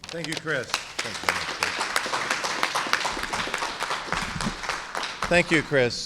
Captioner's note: applause